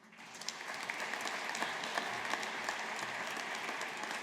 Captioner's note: audience applauding